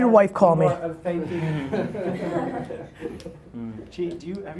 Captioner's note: laughing